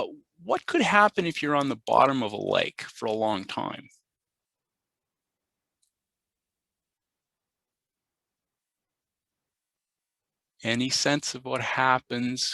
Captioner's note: pause